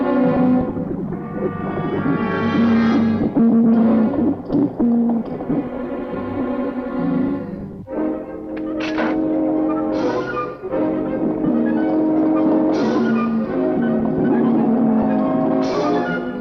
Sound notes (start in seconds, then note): 8.3 gun firing; 8.3 suspenseful music